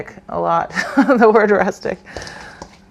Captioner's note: laughs